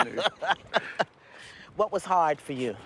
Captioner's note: both laugh